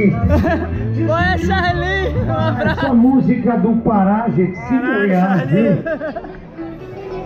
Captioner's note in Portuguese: risos